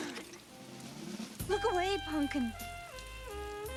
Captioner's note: gasps